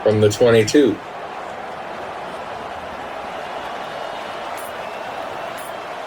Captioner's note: crowd Noises